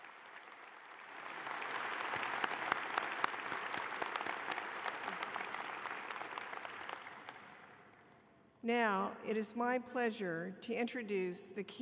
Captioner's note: applause